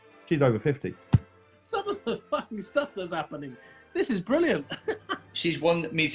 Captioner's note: laughs